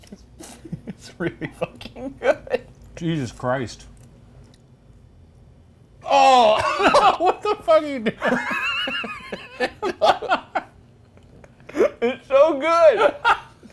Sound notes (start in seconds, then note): 0.0 laughing; 8.6 Shane and Ryan laughing